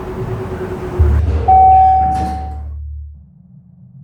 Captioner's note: ding! Doors opening